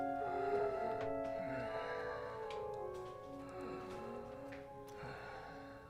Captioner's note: Dom breathes wheezily